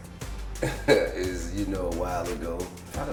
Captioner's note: laughs